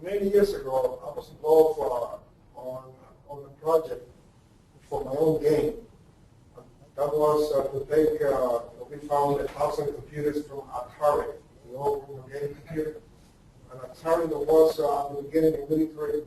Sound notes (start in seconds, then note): 7.6 distorted speech; 12.4 distorted speech